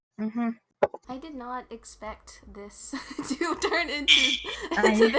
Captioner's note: chuckle